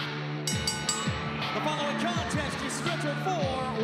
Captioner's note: bell ringing